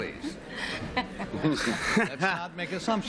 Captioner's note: laughter